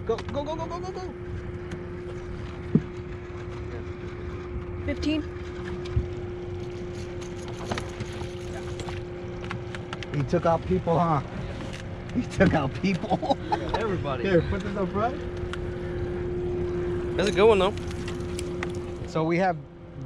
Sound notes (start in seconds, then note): 7.9 tackle rattling; 13.0 laughing